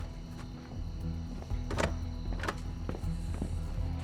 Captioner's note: rattles locked door handle